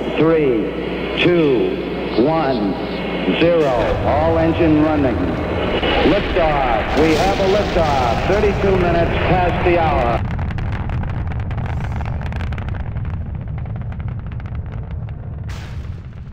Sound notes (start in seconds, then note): 9.9 rocket rumbling